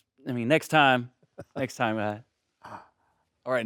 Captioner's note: Stellan chuckling